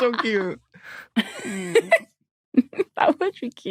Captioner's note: giggles